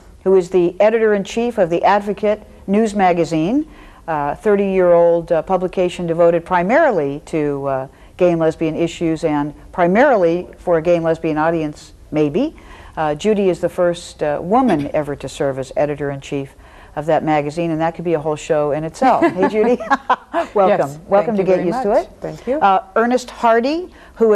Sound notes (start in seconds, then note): 19.0 laughs